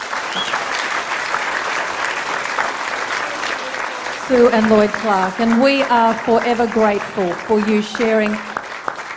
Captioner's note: applause